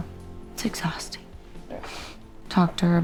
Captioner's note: scoffs